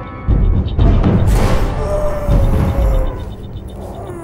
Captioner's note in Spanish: gimiendo